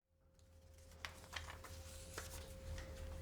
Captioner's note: soft rustling